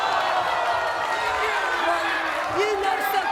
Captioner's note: cheering